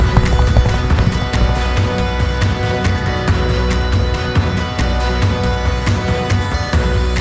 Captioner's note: hooves clop; moves into dramatic music